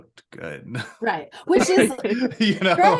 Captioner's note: laughs